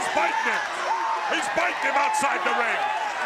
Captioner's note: crowd cheering